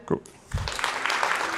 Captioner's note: applause